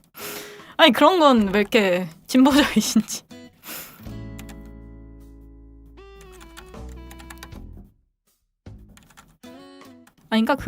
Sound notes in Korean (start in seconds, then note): 5.3 콧방귀